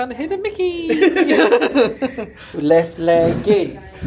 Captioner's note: laugh